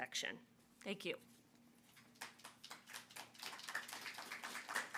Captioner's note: audience applauding